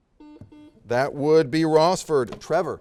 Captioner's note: series of beeps